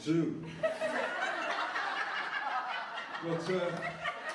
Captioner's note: laughter